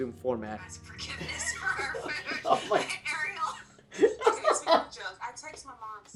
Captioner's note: laughing with colleague